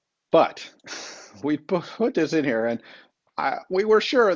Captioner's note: chuckles